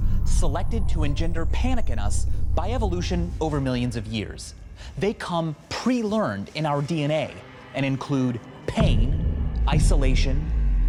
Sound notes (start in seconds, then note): none